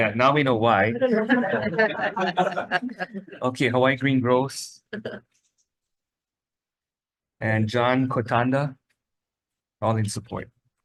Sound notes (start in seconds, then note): 0.9 attendees laughing; 5.9 person laughs